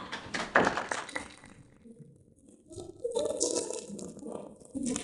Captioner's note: participants clapping